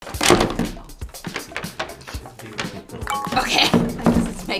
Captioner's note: paper bag crinkling